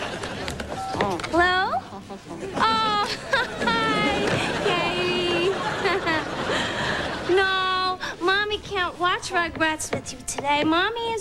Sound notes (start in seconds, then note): 5.5 chuckling